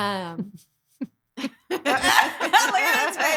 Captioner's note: laughing